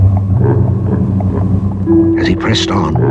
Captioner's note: random Dark Laughter